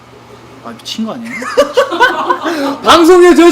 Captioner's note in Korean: 웃음